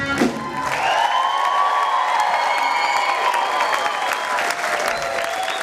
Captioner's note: audience cheering